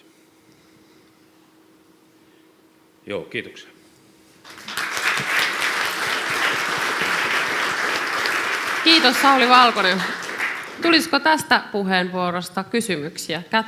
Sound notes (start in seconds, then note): 4.6 clapping